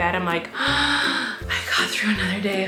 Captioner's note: gasping